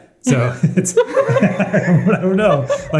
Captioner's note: laughing